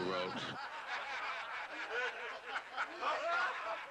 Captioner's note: laughter